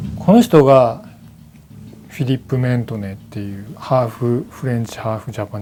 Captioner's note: speaking in foreign language